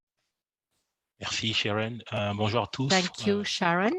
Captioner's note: speaks french